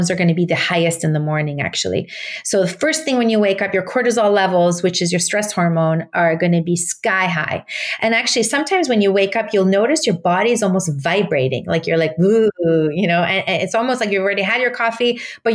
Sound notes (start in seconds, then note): 12.6 moans